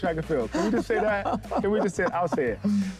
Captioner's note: Jackie continues laughing